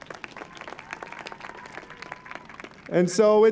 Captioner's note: applause